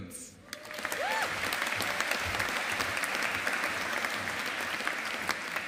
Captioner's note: audience applauding